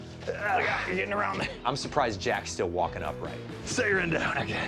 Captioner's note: grunting